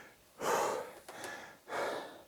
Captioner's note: exhaling